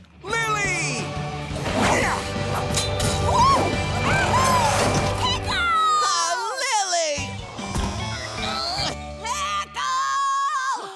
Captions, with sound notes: Lily! [grunting] Whoa, ya hoo! Pickle! Oh Lily! Pickle!